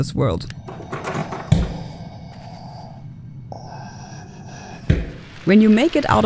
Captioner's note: knocking and scary noises